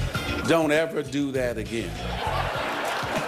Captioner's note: laughter